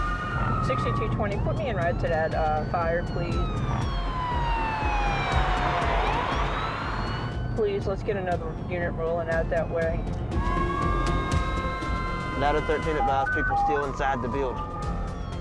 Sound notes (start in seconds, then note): 3.1 police cruiser siren; 9.7 overlapping sirens